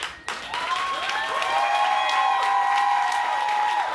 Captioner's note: crowd applause